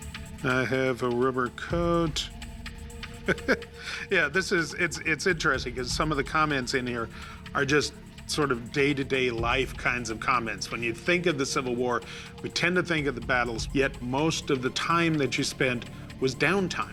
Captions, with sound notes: "I have a rubber coat." [chuckles] Yeah, this is... It's interesting, 'cause some of the comments in here are just sort of day-to-day life kinds of comments. When you think of the Civil War, we tend to think of the battles. Yet most of the time that you spent was downtime.